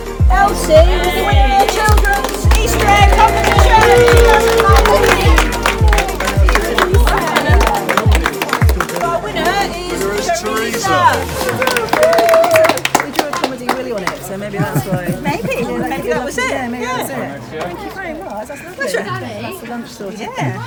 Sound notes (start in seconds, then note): 5.8 applause